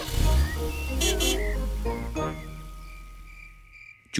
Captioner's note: horn honks